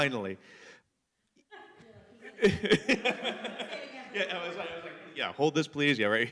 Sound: laughter

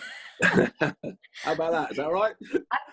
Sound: laughing

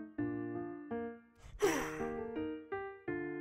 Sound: sigh

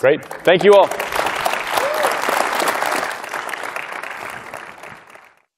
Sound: applause

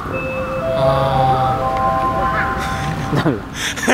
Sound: chiming out

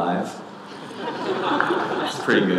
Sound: audience laughing

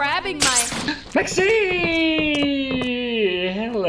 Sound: gasps

